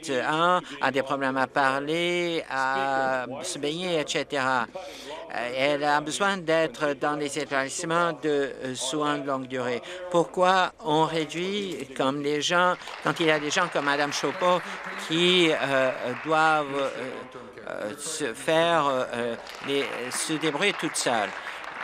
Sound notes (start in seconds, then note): 18.4 applause